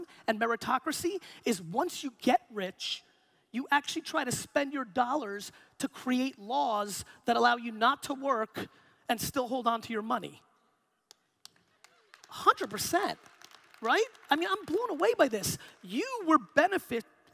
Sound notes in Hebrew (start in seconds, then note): 11.8 הקהל מוחא כפיים